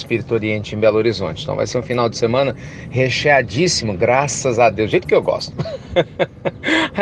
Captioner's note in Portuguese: Risos